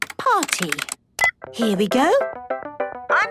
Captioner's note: beep